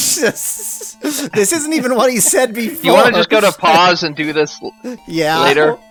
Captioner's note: laughs